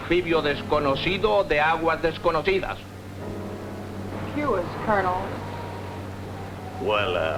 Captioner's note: speaking spanish